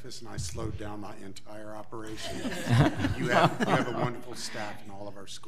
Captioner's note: audience laughs